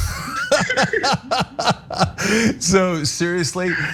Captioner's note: laugh